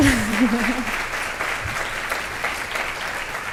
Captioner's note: applause